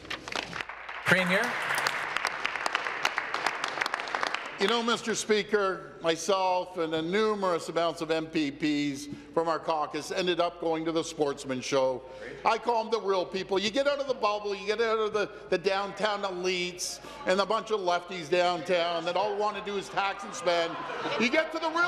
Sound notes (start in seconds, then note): 2.8 applause